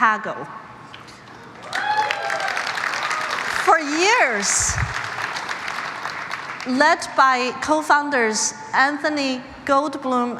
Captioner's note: cheers and applause